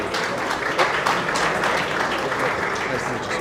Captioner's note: applause